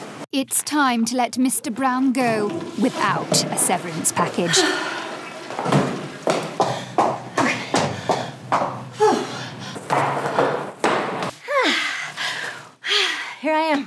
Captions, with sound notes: It's time to let Mr. Brown go without a severance package. *steps* Ah. Here I am.